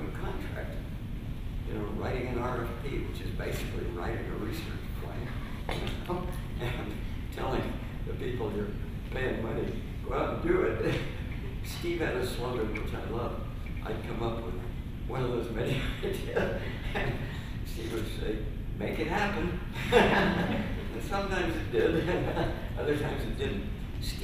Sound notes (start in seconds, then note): 19.7 laughter